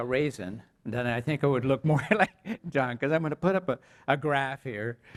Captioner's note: laugh